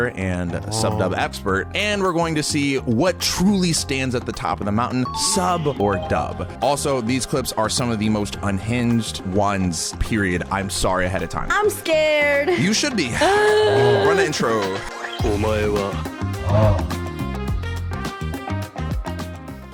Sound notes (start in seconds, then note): 13.4 groaning; 15.4 mellow music